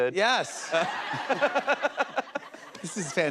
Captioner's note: laughter